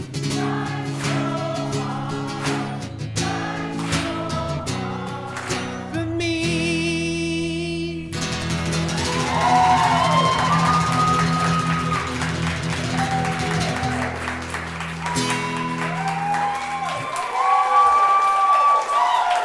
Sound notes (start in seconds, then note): 8.3 guitar strumming; 8.8 audience cheering